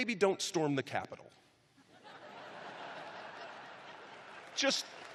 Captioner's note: laughter; cheers and applause